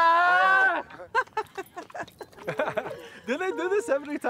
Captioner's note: laughs